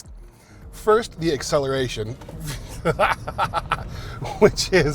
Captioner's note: laughs